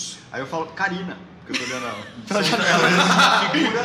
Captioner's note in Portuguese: Risadas